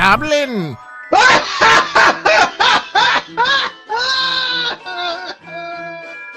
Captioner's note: evil Laugh